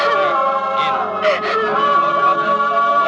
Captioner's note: crying